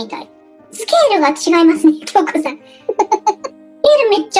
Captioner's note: laughs